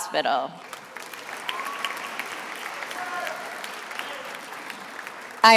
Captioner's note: attendees applauding